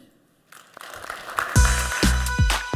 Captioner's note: applause